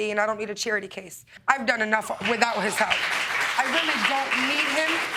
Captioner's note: audience clapping